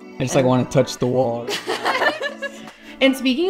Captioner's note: laughing